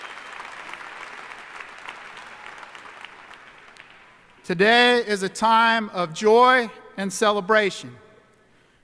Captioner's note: applause